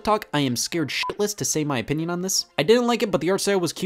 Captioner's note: beep